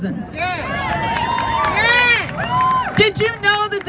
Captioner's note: crowd; cheers